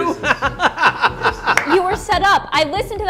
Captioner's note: laughing